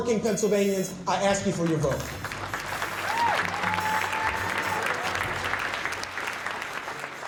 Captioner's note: audience cheers and applauds